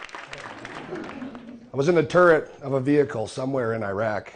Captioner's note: clapping